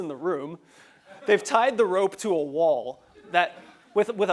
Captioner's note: laugh; laugh